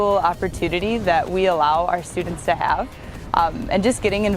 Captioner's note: fire crackling